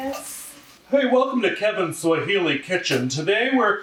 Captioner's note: weird voice